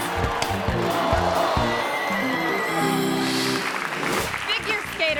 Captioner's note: audience gasps